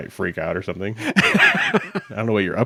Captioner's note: chuckles